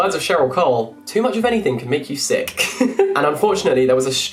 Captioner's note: laughs